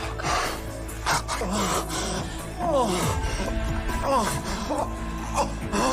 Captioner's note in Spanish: Gemidos